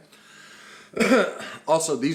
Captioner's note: coughs